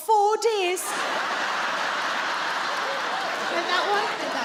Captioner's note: audience laughing